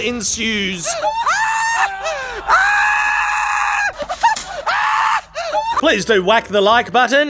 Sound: screaming laughter

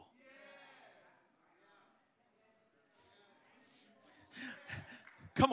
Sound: congregants calling out

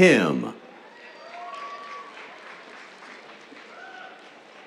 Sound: cheers, applause

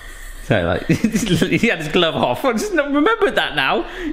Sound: laughing

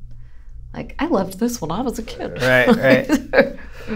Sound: laughter

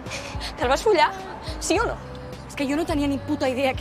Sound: sobbing

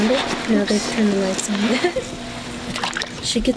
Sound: giggle

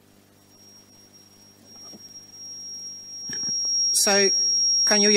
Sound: high pitched squeal

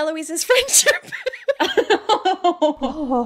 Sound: laughing

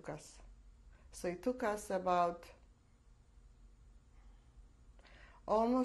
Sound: pauses for 3 seconds

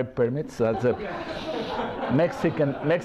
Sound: laughter

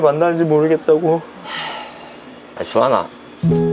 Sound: sigh

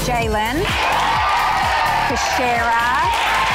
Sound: girls cheering

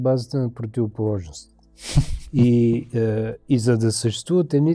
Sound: laughter

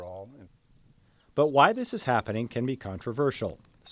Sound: voiceover

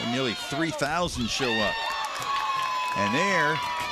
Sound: cheering

